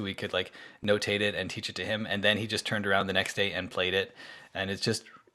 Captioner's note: snaps